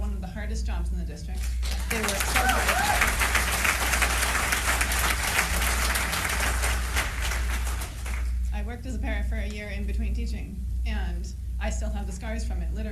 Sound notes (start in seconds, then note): 1.4 applause